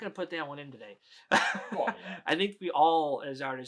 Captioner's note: laughs